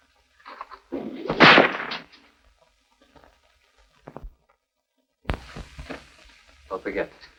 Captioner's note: bull whip sounds